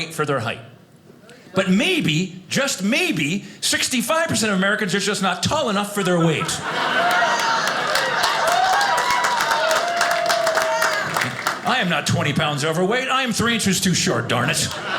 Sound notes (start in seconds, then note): 6.0 audience cheers